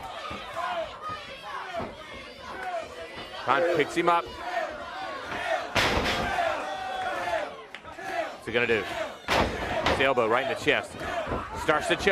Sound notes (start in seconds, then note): 0.1 crowd chatter; 7.8 crowd cheering